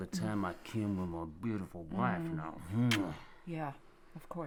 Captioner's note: kiss smacking